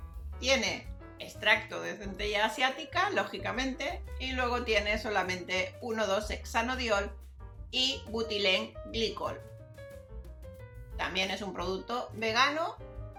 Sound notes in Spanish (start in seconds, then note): none